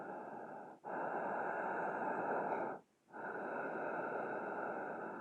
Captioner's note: murderer breathes deeply